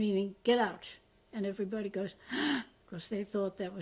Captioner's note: gasps